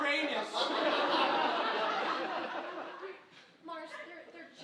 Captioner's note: audience laughing